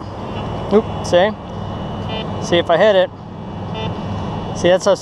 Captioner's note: machine beeps